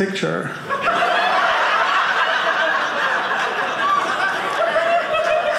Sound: audience laughing

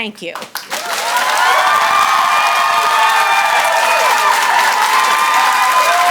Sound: audience applauds and cheers

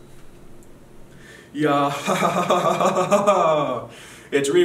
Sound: excited laughing

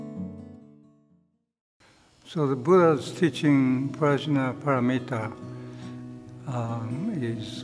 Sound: speaking in foreign language

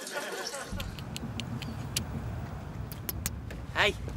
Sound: kissy Noises

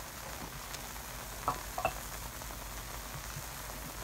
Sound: clatter of plates?

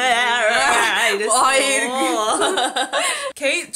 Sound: laugh

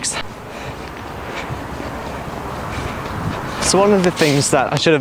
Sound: traffic nearby

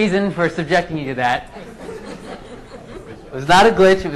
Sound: laughing

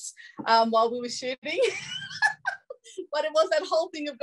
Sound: laughs

